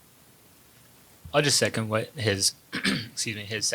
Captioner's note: clears throat